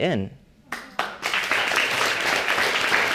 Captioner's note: audience applauding